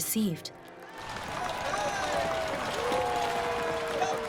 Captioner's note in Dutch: publiek juicht